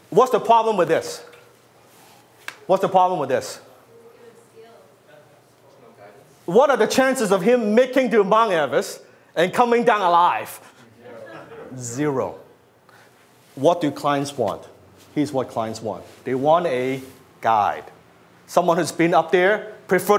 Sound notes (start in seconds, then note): 4.0 audience members speak; 11.1 audience laughs